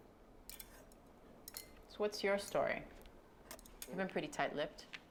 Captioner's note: none